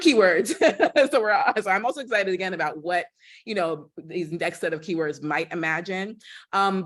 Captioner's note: laughter